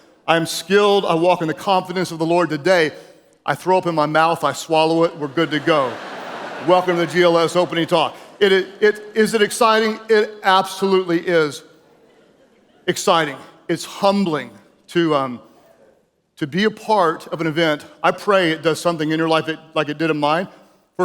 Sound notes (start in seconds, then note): 4.8 audience laughing